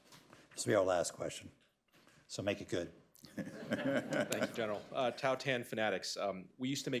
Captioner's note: laughter